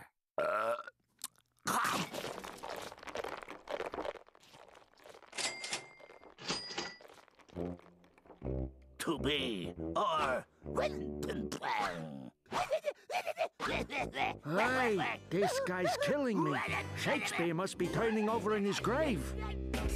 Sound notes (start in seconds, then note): 0.3 Taz belching; 5.2 cash register dinging